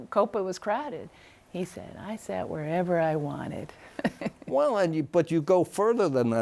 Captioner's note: laughs